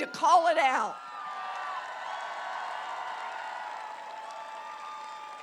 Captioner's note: applause